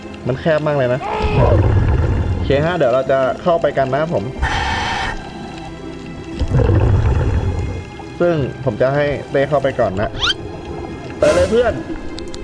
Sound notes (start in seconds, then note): 1.1 exhale; 4.3 inhale; 6.4 exhale